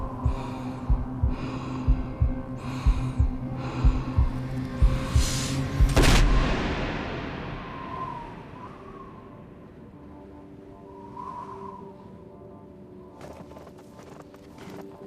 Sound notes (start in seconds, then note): 5.9 gunshot; 7.1 wind howling; 9.3 soft music